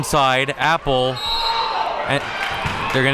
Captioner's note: whistle blows